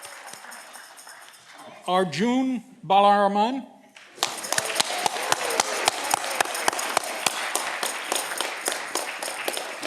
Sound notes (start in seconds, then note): 4.0 audience clapping